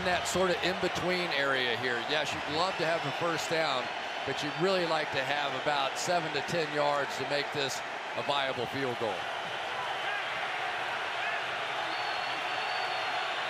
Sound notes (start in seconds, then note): 11.0 crowd cheering